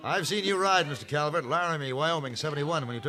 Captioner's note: none